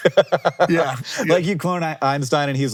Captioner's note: laughing